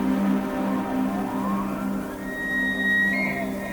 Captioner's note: elk bugle